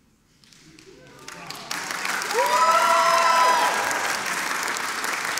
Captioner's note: audience cheering and applauding